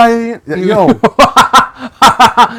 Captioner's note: laughing